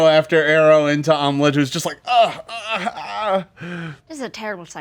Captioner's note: moans painfully